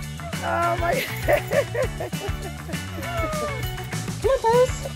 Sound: dog panting; woman laughing

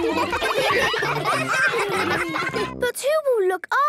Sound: ruckus

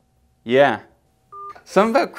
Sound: boop

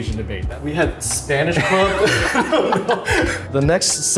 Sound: both laughing

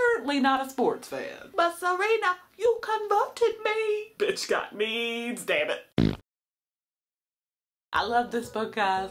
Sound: fart noise

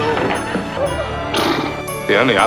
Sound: exhales

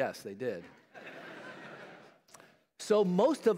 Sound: laughter

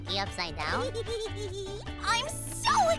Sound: giggling

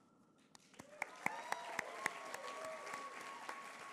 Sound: applause

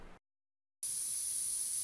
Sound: spraying

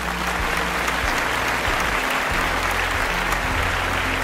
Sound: clap Clap Clap Clap time

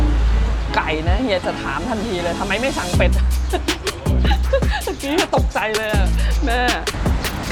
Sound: laughs

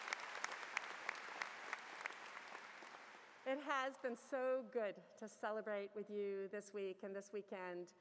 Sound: cheers and Applause

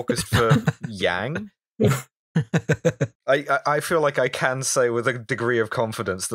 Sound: laughter

